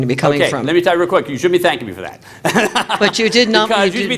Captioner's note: laughter